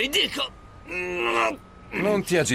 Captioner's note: grunting